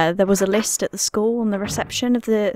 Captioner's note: none